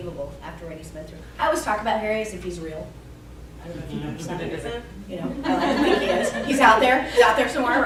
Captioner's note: laughter